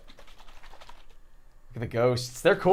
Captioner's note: swishing